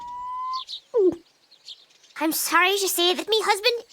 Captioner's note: gulp